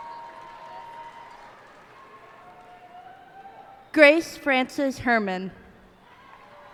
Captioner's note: cheers and applause